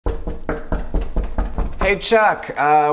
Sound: door knocking

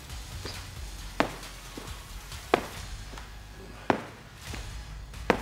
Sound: feet hitting ground

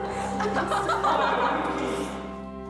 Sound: laughter

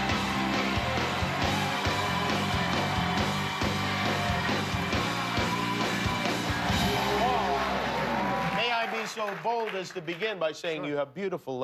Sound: cheers and applause

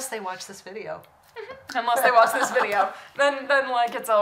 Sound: laughs

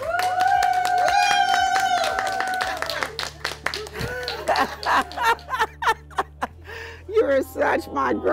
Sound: applause, cheers

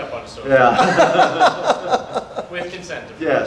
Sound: audience laughter

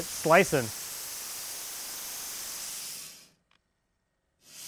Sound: saw running

